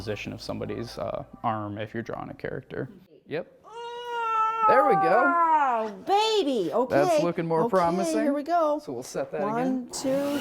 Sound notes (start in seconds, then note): 3.7 groaning